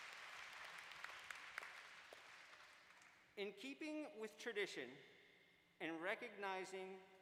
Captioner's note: applause